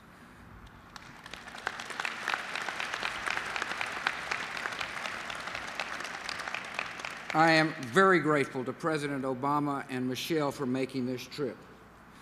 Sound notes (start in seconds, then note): 0.9 applause